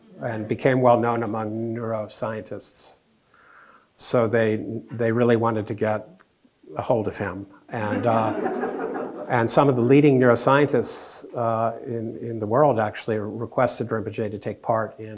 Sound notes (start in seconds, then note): 7.8 audience laughing